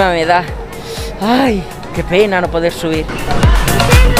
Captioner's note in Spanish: sarcasmo